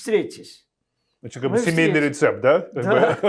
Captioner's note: laughing